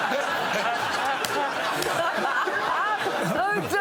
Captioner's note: laughter